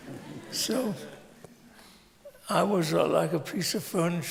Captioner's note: laughter